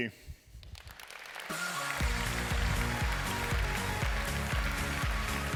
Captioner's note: applause